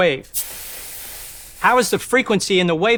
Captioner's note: coils rattle